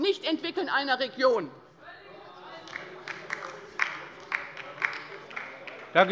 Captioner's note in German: Beifall bei der LINKEN - Zurufe von der CDU: Ei, ei, ei!